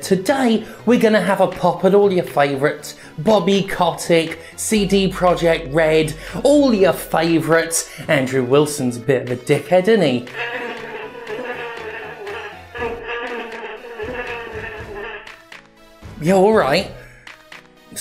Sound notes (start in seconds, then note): 10.3 bee sounds emminate from dog puppet